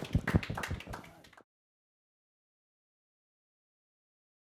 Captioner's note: applause